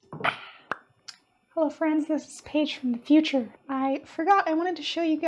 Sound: pop!

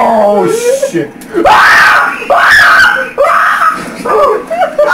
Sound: evil Laughter; screams like a little girl DX

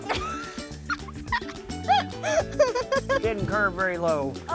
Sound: laughs

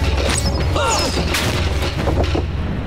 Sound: grunting

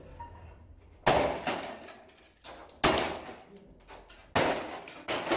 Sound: whacking & clattering

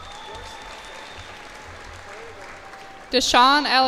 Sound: cheers and applause

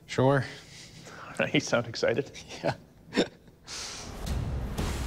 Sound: laughs; rock music playing

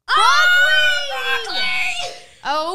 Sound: yelling together

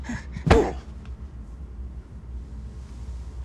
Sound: heavy breathing; impact; grunt

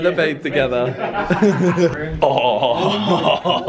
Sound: laughing

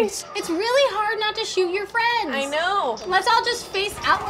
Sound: none

